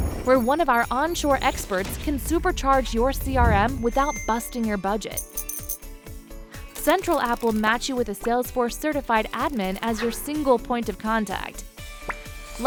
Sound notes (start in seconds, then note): 4.9 coins clinking